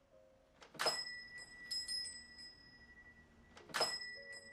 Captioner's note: door bell jingles